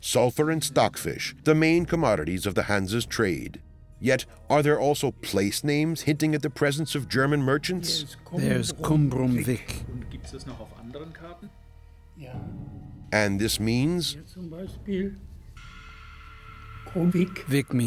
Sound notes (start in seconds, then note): 8.4 in German; 10.0 men speaking German; 13.0 man in German